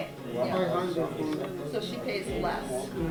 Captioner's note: students talking